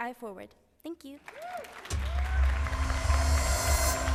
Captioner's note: cheers and applause